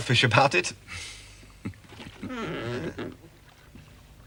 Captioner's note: jerome chuckling